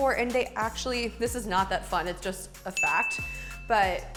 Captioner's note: ding